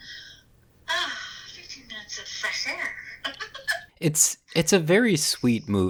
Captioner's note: laughs